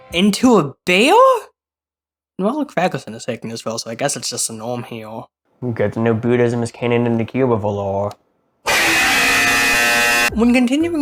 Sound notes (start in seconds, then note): 8.6 loud buzzer